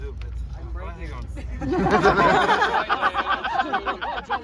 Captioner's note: laughter